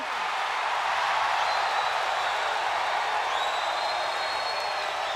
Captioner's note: audience applauds and cheers